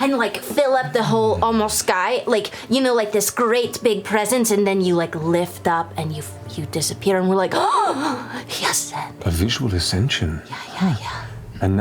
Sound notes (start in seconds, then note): 7.7 gasps